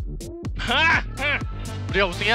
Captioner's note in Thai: เสียงพึงพอใจ